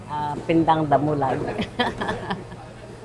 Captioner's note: laughs